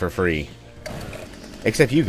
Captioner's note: Smackie roars to life